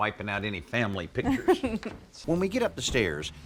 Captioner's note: laughs